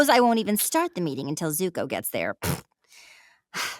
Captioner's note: blows raspberry; sighing